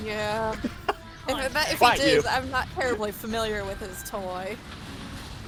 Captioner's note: laughs and says something unintelligible; laughs